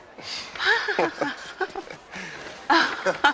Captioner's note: Смее се